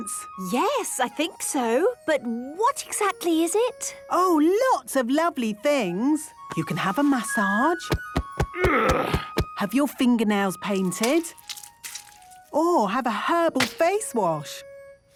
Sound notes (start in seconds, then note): 7.8 thumping; 8.4 moaning